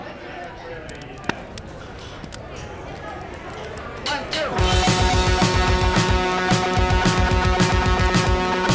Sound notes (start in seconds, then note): 1.1 flames crackling; 4.6 rock music playing